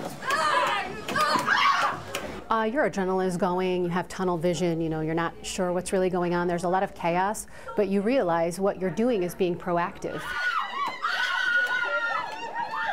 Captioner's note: screaming